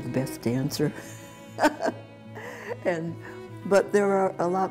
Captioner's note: laughter